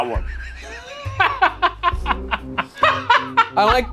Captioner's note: laughs